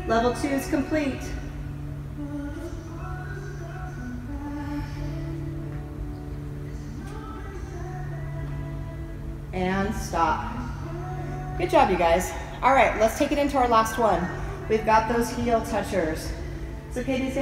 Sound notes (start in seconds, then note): 5.0 heavy breathing